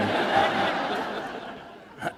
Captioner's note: laughter